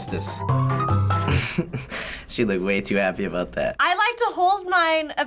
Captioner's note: chuckles